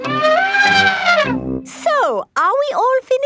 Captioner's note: trumpeting